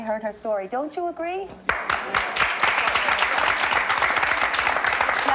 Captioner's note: audience applause